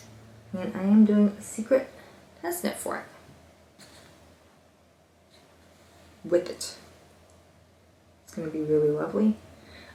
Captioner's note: pause